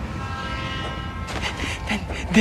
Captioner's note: train chugging